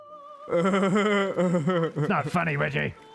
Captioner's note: laughter